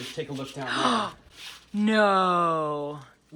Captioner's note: gasping